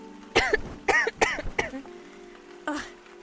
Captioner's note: blanket shakes; coughs